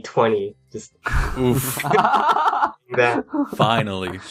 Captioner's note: laughing